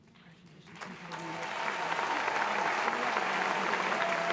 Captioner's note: applause